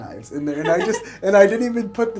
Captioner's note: laughing